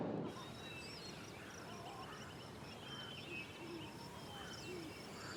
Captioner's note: crickets chirping